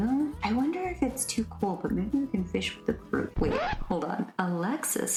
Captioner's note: record scratch